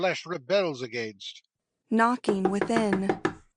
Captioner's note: Peto knocks at door